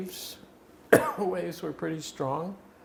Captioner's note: coughing